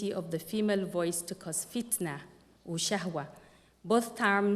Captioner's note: non-english speech